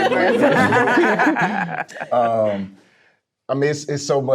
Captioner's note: all laughing